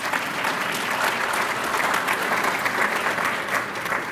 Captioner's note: applause